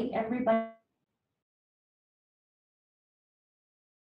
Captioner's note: silence